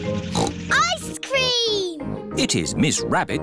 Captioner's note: snorts